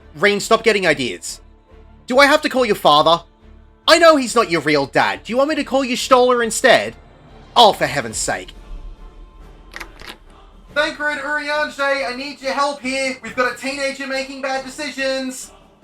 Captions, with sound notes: Ryne, stop getting ideas. Do I have to call your father? I know he’s not your real dad! Do you want me to call Y’shtola instead? Oh for heaven’s sake. [door opening] Thancred, Urianger, I need your help here! We’ve got a teenager making bad decisions!